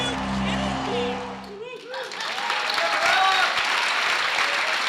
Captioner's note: scattered cheers; applause